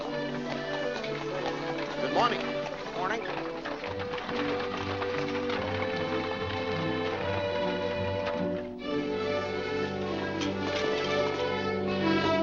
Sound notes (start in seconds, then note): 0.3 hooves trotting; 3.8 hooves trotting & cart rattling